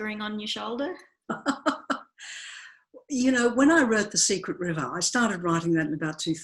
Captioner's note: laughs